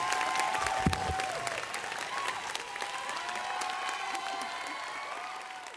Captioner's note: audience clapping and cheering